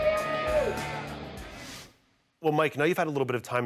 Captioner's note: crowd cheering